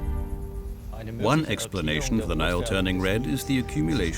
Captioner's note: in German